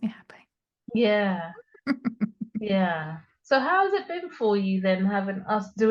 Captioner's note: laughs